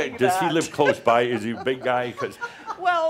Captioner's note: she chuckles